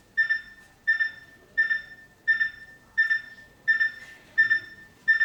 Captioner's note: alarm beeping